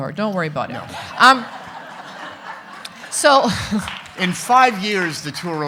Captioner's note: audience laughing